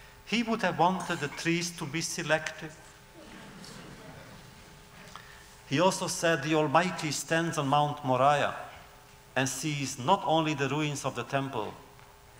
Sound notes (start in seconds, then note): 3.2 laughter